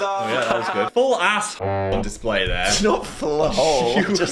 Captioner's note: horn honks